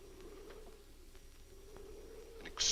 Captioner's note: muffled wind howls